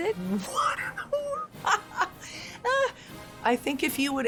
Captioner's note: exclaiming